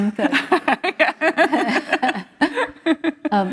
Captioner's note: laughter